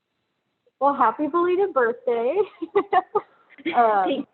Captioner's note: laughs